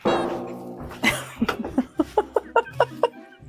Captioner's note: laughs